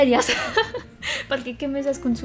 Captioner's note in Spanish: ríe para no llorar